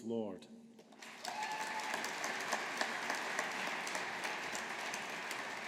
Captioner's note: audience applauding